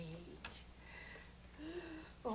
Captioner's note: gasps